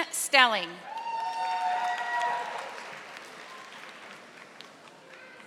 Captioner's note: audience applauding